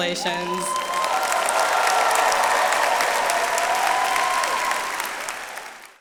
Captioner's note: attendees cheering and applauding